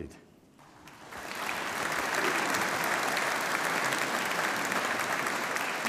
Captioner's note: audience applauding